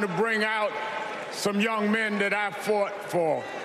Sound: cheers and applause

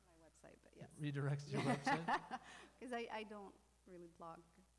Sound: laughing

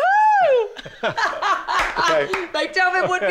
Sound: laughter

